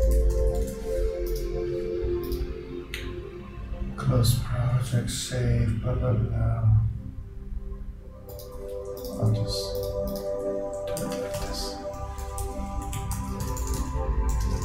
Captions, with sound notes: Close project, save, but. (mouse clicking) I'll just. (mouse clicking) Do it like this.